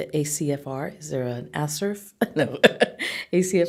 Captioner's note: chuckling